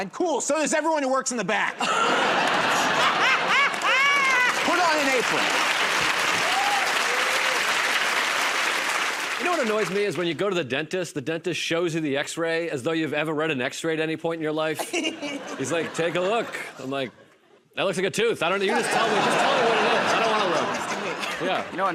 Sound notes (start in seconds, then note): 2.3 laughter and applause; 6.6 applause; 14.8 laughter; 18.7 laughter